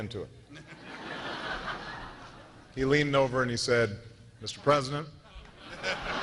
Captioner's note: laughter